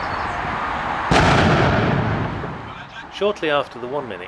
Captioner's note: canon fires